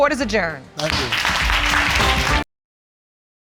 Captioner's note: audience clapping